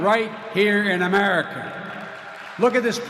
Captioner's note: applause